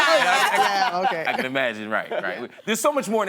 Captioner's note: laughter